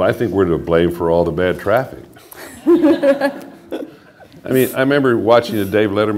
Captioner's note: laughter